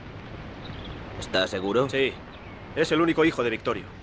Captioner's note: Ramirez speaks Spanish